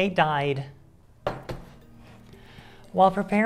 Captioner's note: thunking sound of broken hopes and dreams